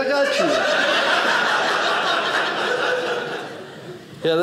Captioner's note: audience laughing